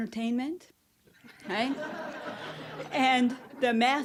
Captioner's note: audience laughing